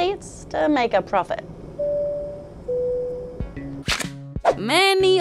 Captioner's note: plane announcement beeps